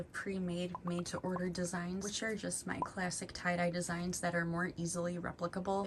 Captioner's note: none